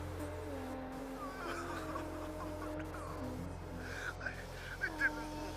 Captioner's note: man on DVD sobs